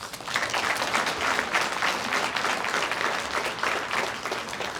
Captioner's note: audience applauds